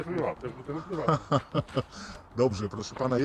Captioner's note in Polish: śmiech